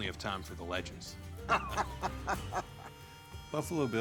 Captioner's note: laughter